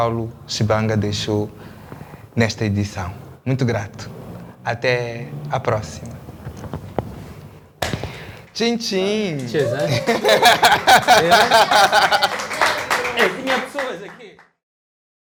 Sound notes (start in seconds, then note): 9.3 laughs